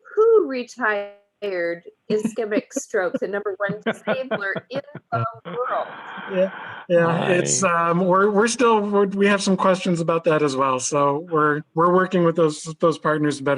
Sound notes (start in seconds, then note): 2.1 laughing